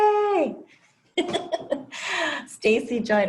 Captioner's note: laugh